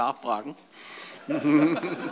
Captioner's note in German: Allgemeine Heiterkeit